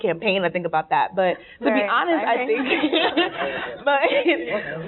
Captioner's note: laughing